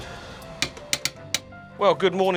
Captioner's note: door knocker rapping